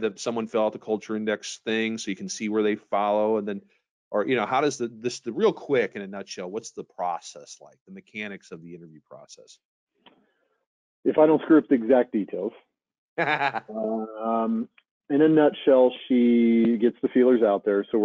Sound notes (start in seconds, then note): 13.2 laughing